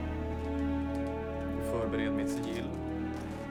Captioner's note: speaking Swedish